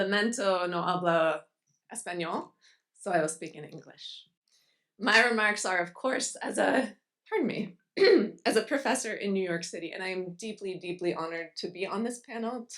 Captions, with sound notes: So I will speak in English. My remarks are of course, pardon me, (clears throat) as a professor in New York City, and I am deeply, deeply honored to be on this panel